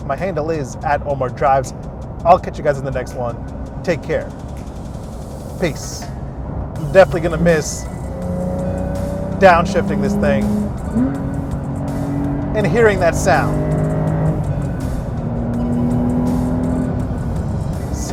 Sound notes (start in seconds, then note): 4.6 upbeat music; 10.9 car engine revving; 10.9 upbeat music continues; 14.2 car engine revving; 14.2 upbeat music continues